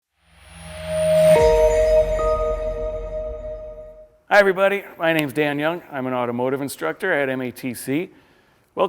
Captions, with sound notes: (logo whooshing) (logo chiming) - Hi, everybody. My name's Dan Young. I'm an automotive instructor at MATC.